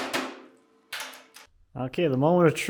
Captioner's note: metal clunking